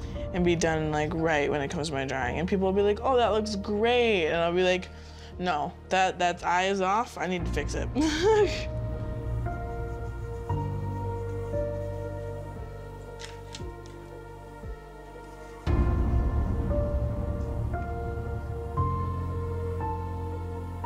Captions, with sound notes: and be done like right when it comes to my drawing. And people will be like "oh that looks great!", and I'll be like no. That eye is off, I need to fix it (laughs). (melancholy piano music) (melancholy piano music) (melancholy piano music)